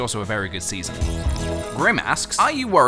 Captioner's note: slurp